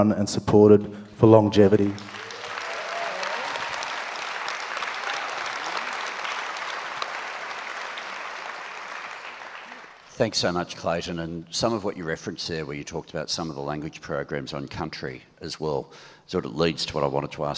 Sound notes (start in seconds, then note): 1.6 audience applauds